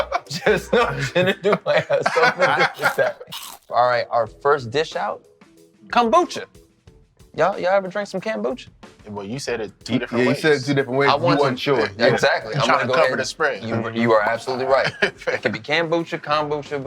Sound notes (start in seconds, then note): 2.3 laughing; 2.7 crunching